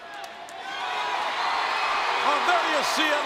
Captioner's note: crowd cheering